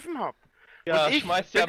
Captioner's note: inhales